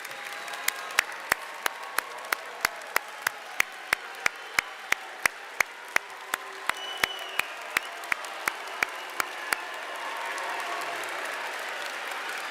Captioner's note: applause